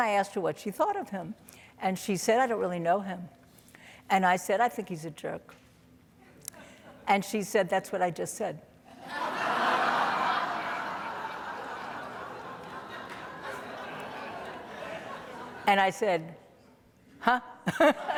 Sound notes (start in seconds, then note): 9.0 audience laughing